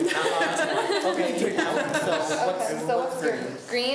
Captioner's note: laughs; students talk amongst themselves